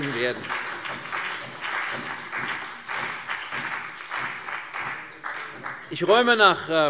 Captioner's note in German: Beifall CDU und BÜNDNIS 90/DIE GRÜNEN